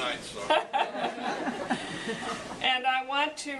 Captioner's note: laughing